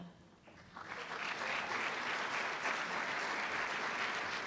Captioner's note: applause